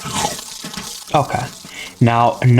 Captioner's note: inhales Oxygen